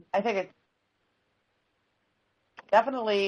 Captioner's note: audio cuts off